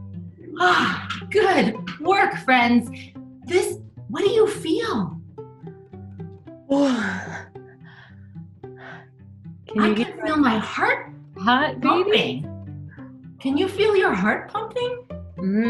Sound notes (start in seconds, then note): 0.0 laughs; 5.7 soft guitar music; 6.8 sighs